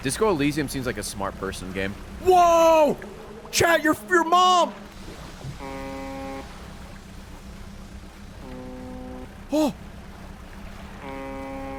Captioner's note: honk; distant honk